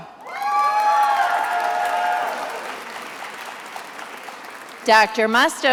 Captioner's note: attendees applauding and cheering